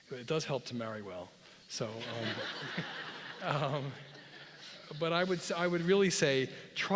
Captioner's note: laugh